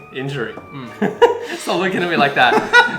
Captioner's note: chuckles